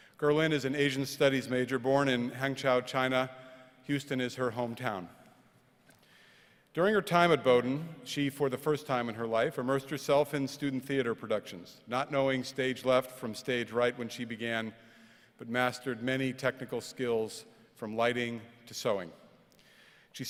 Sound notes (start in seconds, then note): none